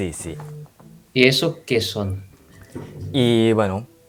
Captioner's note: Spanish